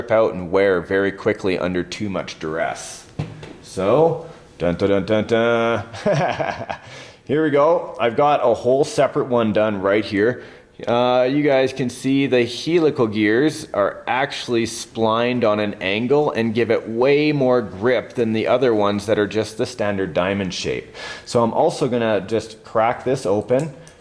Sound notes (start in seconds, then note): 5.8 laughs